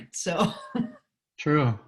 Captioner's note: laughs